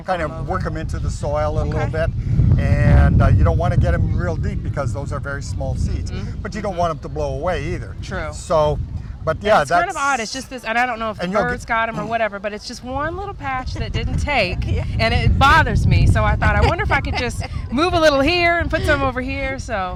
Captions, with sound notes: KIND OF WORK THEM INTO THE SOIL A LITTLE BIT. YOU DON'T WANT TO GET THEM REAL DEEP, BECAUSE THOSE ARE VERY SMALL SEEDS. BUT YOU DON'T WANT THEM TO BLOW AWAY EITHER. - TRUE - SO, BUT YEAH-- - IT'S KIND OF ODD, I DON'T KNOW IF THE BIRDS GOT THEM OR WHATEVER, BUT IT'S JUST ONE LITTLE PATCH THAT DIDN'T TAKE, AND IT BOTHERS ME, - (LAUGHS) - SO I WONDER IF I COULD JUST MOVE A LITTLE HERE, AND PUT SOME OVER HERE.